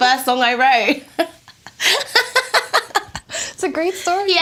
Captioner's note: laughs